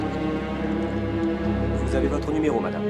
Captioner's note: speaking french